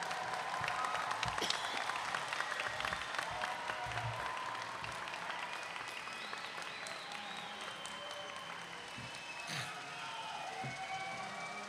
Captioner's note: cheers and applause